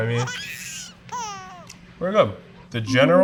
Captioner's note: baby laughs